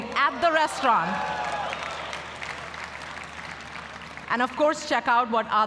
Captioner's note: applause